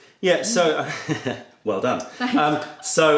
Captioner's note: laughter